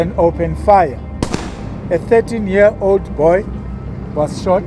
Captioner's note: gun firing